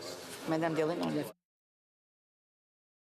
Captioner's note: speaking French